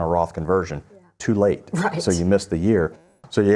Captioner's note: laughs